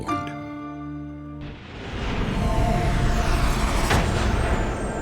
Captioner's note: whooshing